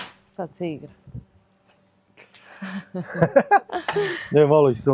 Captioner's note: laughs